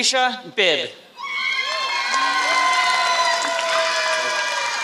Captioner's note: applause